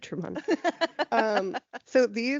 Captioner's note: laughing